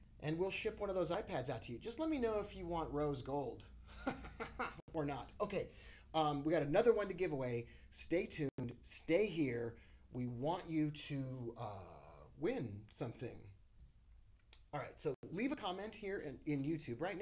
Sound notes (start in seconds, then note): 3.9 laughing